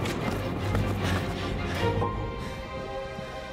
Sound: panting; creepy music

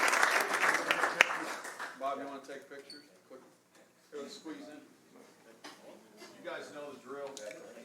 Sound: applause

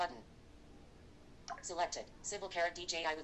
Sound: blip

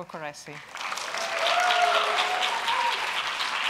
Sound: applause

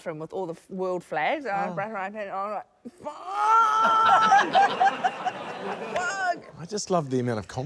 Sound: laughter

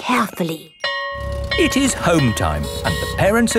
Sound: school bell ringing

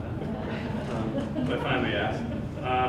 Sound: laughter

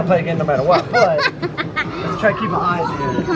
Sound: laughing

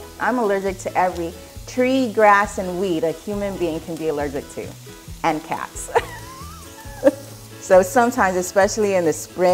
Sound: laughs

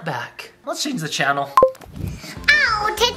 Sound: remote beeping

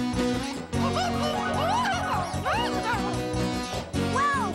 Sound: blathering

